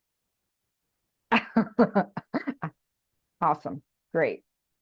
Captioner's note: laughing